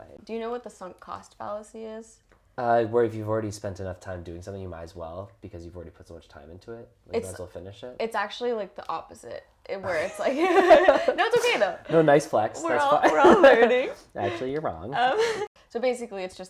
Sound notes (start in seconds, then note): 9.3 laugh